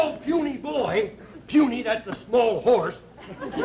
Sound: audience laughter

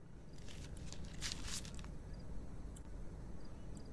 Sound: page turning

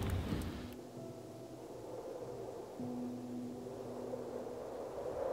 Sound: wind whooshing

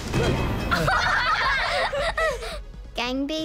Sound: all laugh

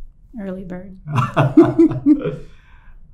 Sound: laughter

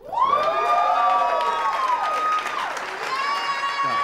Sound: audience cheering

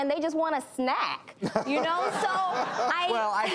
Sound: laughs

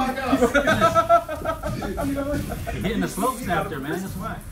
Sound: laugh

